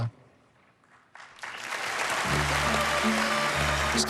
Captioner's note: cheering and applause